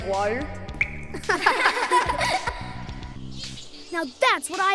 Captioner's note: all laughing